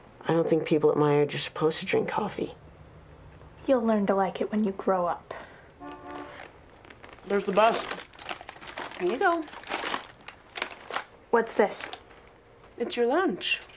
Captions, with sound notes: I don't think people at my age are supposed to drink coffee. - You'll learn to like it when you grow up. (bus honks) - There's the bus. Here you go. - What's this? - It's your lunch.